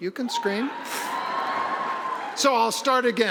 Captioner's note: audience cheering